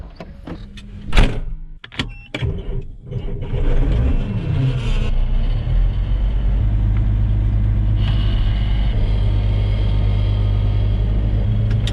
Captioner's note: tractor sound